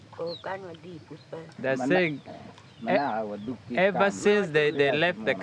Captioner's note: speaking in foreign language